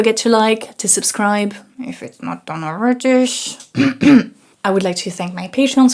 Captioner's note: clears throat